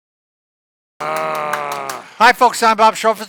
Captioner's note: clapping; growling